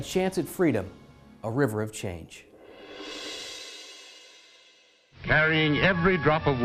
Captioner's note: swoosh